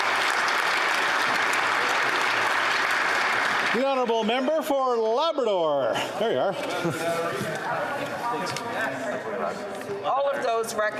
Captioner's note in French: applaudissements